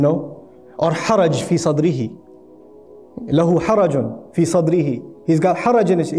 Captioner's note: Arabic